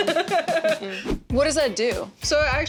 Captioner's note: laughing